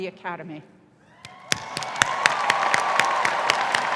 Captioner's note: applause